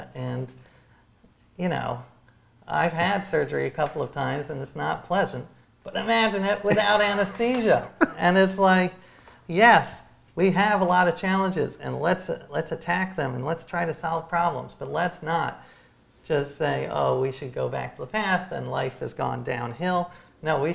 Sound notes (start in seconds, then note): 6.6 laughs